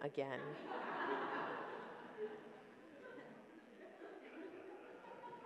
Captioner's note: audience laughs